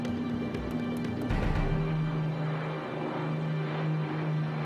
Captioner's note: rumbling motors